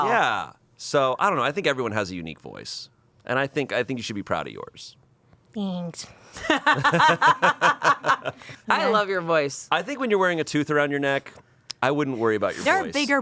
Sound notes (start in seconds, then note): 6.5 everyone laughs